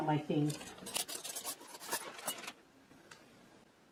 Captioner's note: flatware clinking together